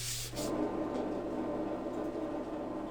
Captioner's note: quiet roaring